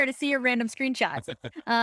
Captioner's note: laughing